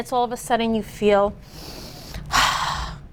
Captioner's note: inhales and exhales deeply